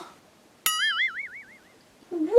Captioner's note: boing